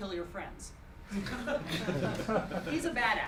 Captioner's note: giggling